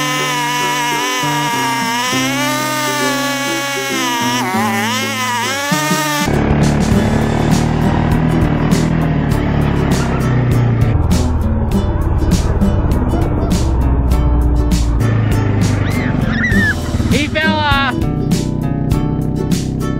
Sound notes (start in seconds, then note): 15.6 kids screeching